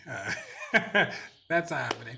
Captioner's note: laughing